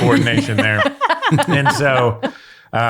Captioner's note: all laugh